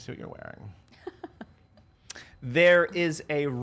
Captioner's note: laughs